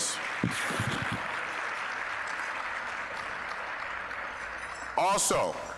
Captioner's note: applause